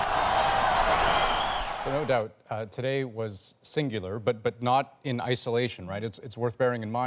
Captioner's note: cheers and Applause